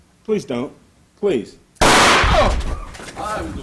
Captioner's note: gun shot